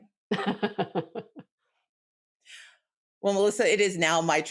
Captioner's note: laughs